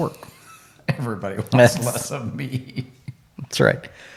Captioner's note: laughs